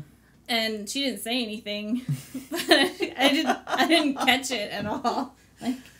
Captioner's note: laughs